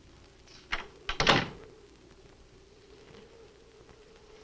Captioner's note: door closes